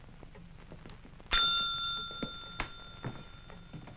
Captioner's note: Charlie Towman rings the desk clerk's bell